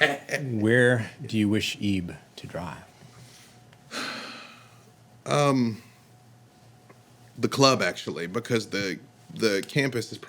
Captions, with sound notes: Where do you wish Ebe to drive? (sighing) The club, actually, because the campus